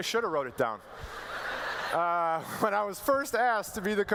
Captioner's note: laughter